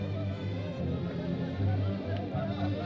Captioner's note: chattering